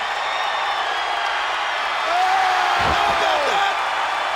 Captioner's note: audience cheers